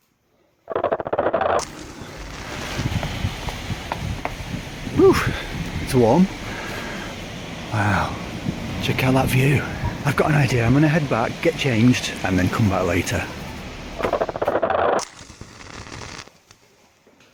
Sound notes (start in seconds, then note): 0.9 portal sound; 14.1 portal sound